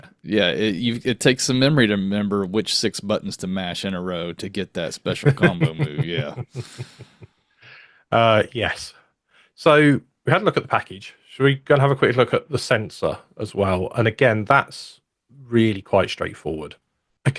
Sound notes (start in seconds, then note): 4.9 laughs